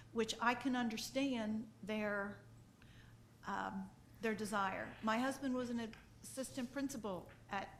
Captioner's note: none